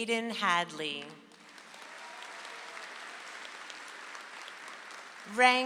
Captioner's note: audience applauds